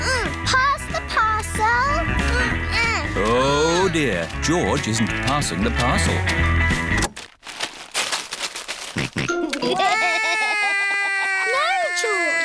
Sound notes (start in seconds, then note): 7.3 music stops; 8.9 george laughs; 9.6 cries